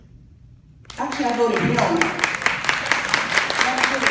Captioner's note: applause